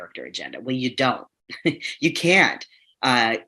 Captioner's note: chuckles